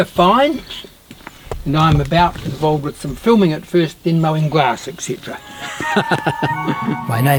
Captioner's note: laughs; laughs